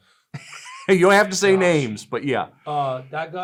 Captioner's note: chuckles